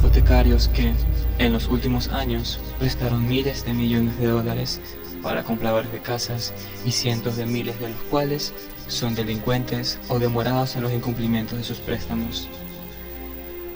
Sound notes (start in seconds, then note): 0.0 train passing; 8.9 whispering prayer